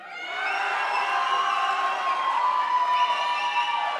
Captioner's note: crowd applauds